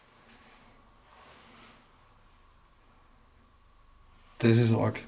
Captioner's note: silence